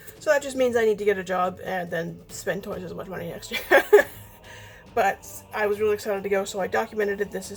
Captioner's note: laughs